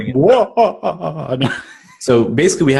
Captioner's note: laughs